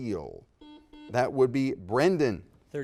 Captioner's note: buzzer dings